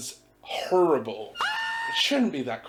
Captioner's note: Spongebob Scream Sound